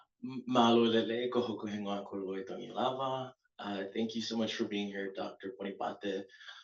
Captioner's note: non-english speech